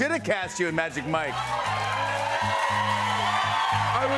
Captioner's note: cheers and applause